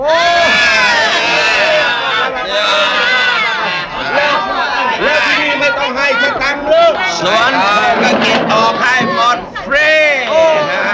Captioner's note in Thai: เสียงเฮฮาดีใจ